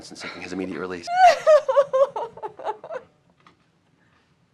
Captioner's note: Melinda sobbing